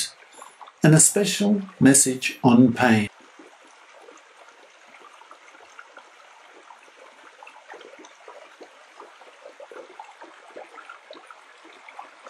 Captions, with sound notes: and a special message on pain. [sounds of a stream]